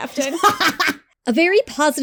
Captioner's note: laughs